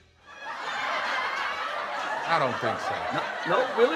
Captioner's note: audience laughs